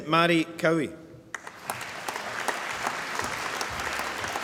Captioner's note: applause